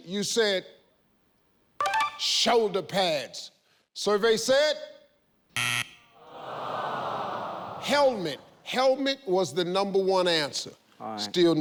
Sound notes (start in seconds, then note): 5.5 buzzer; 6.2 audience moans empathetically